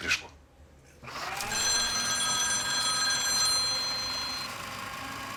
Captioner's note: phone rings